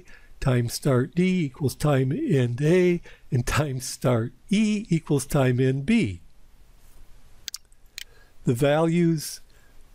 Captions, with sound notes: time start D equals time end A, and time start E equals time end B. [PowerPoint click] The values